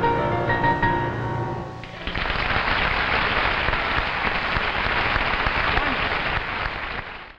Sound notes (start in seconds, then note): 1.8 audience applauding